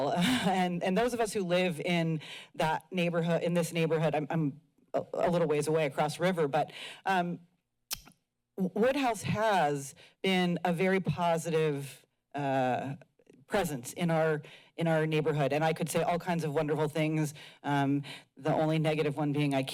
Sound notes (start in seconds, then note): 0.2 chuckles; 7.9 clicks tongue